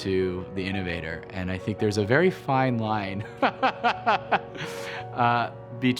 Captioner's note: laughs